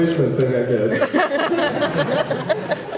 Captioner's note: laughs